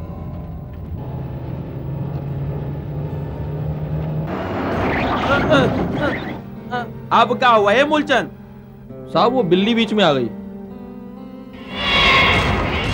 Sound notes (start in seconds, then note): 4.7 brakes squeal